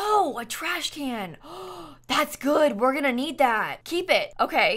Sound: gasps

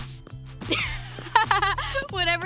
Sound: laughing

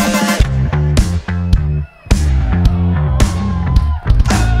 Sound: audience cheers

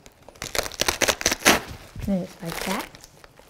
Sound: cabbage cracking

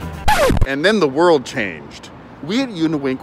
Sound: record Scratch

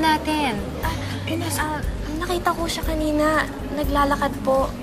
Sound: Ella stammers

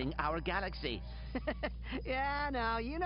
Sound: laughs

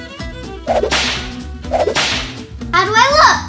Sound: whip cracks twice

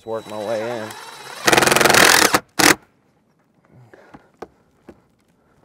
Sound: power tool whirring

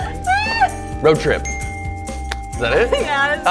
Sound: laughing; bell dings

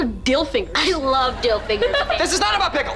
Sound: laughing

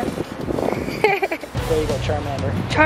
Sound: laughing

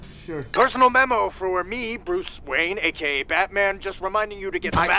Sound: speakerphone

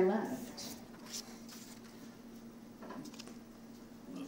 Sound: paper rustling

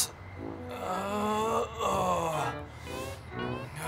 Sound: Donny groans

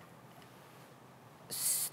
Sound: none

